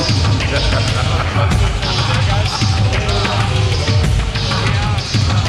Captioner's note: man laughing manically; lively tribal music